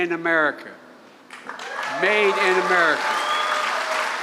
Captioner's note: applause